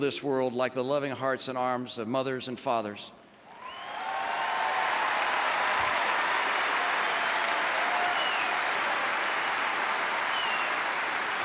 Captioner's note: applause